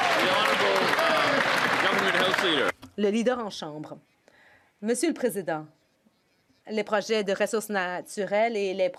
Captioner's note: some Applause